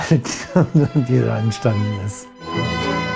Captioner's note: laughs; waltz music